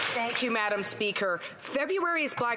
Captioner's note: some Applause